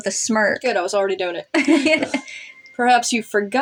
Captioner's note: laugh